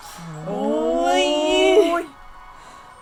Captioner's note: scream